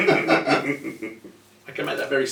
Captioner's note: laughs